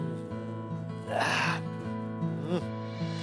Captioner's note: breathes out